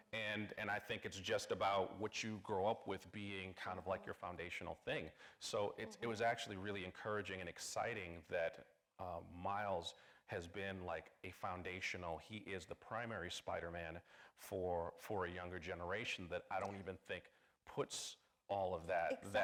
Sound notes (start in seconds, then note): none